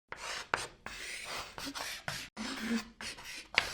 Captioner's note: chalk scratching